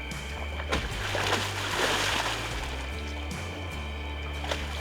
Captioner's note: water splashing continues